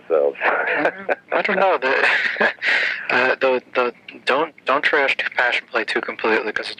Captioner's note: laughs